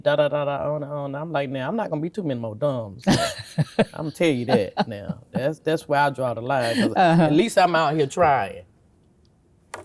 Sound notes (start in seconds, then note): 3.0 laughing